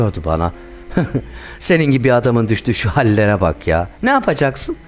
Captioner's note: alaycı gülme sesi